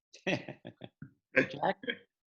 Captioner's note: laughing